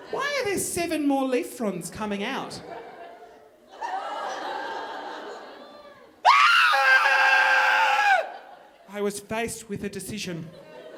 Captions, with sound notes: Why are there seven more leaf frond's coming out? (audience laughing) (screaming) I was faced with a decision.